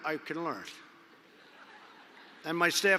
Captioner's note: laughter